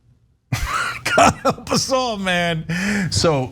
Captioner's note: laugh